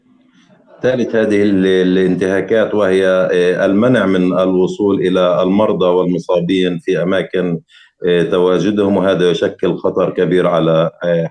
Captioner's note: speaking arabic